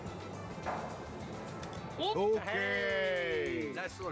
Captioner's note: speaking Japanese